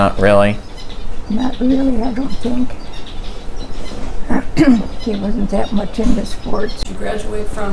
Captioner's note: clears throat